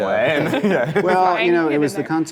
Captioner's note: laughter